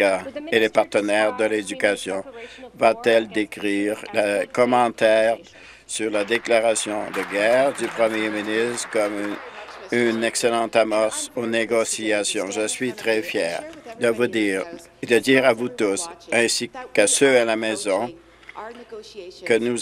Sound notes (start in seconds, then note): 9.0 applause